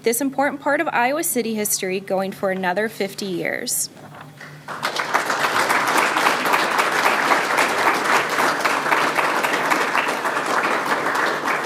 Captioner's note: applause